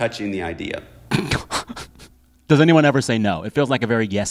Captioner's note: laughter